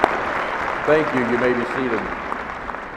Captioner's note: applauding